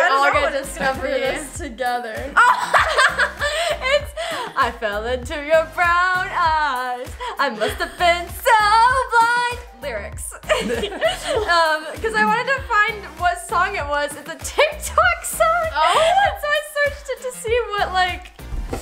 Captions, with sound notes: - We all get to discoveries together. (laughs) - It's "I fell into your brown eyes, I must have been so blind," lyrics. (laughs) because I wanted to find what song it was. It's a tik tok song. so I searched it to see what like,